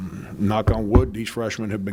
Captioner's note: knocking